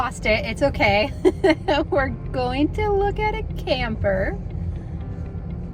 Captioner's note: laughs